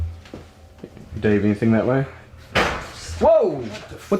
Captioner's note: loud bang